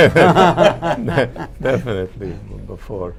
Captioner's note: laughter